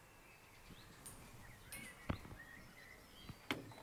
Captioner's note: birds chirping